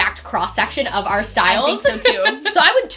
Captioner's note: laughs